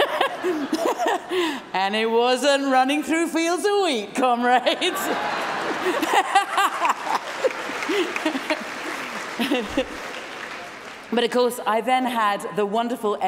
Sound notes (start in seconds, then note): 6.6 laughter